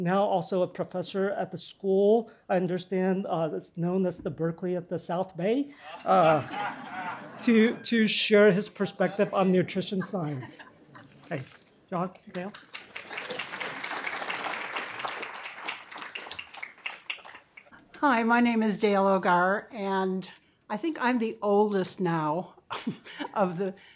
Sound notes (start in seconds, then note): 5.8 laughter; 12.2 applause; 22.7 chuckles